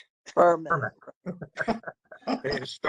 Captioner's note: laughter